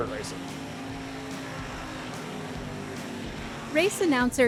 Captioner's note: engine running